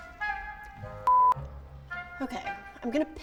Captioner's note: beep